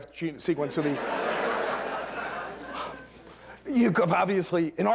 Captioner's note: laughter